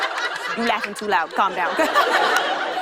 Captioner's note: laughter